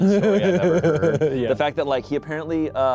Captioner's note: laughs